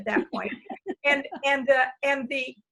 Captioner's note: laughs